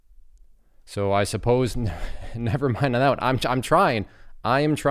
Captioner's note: laughs